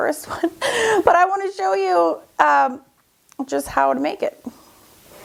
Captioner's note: laughs